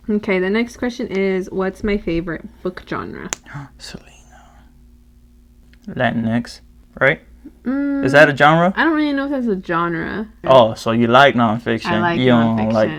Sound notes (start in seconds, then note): 3.7 sigh; 4.0 whsipers in awe